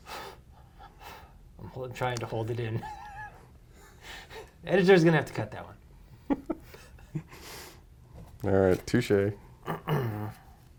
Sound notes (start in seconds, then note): 6.2 laugh